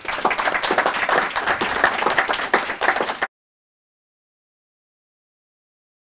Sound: applause

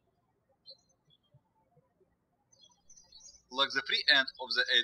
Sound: birds chirping

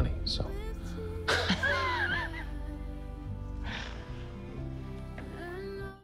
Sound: laughs

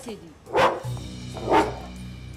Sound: dog barking

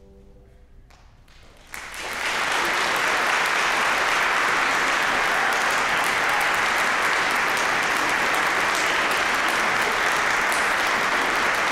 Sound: applause

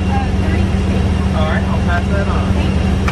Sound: plane noises drown out

